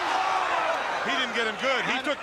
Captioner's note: crowd cheering